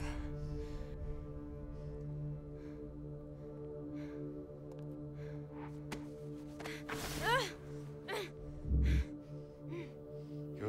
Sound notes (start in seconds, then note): 2.3 heavy breathing; 6.7 woman groans